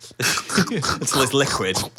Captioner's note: imitating sucking